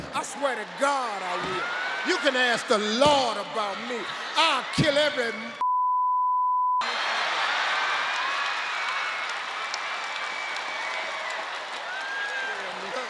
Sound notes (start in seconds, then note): 5.6 beep; 6.8 audience cheering